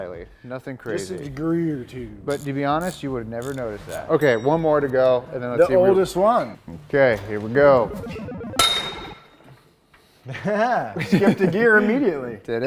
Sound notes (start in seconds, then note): 7.6 metal snaps; 10.2 giggles